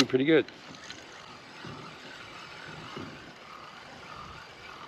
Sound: reel spinning

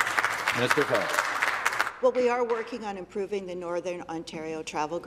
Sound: some Applause

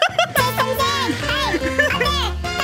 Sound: all laughing

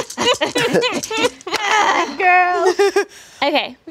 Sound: dice rattles; all laughing

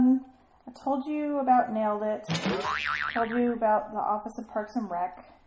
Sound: boing noise in background

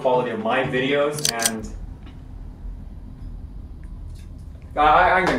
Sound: gun Cocks

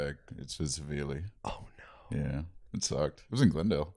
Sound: whispering

